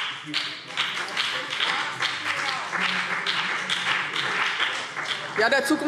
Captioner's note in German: Beifall BÜNDNIS 90/DIE GRÜNEN